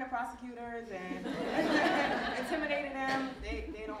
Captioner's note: audience laughing